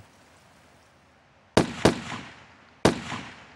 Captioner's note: gunfire